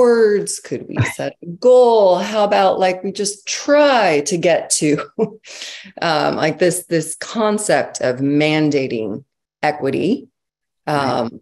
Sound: laughs

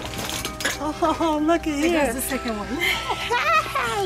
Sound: laughter

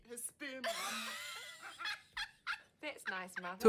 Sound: both laugh loudly

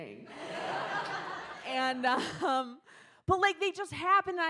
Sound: audience laughs

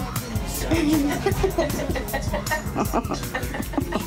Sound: laughing

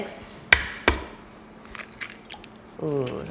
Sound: egg cracking

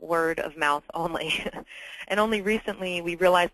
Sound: laugh

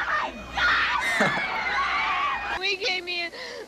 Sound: chuckles

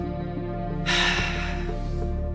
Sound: sighs

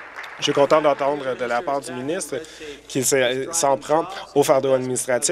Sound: applause

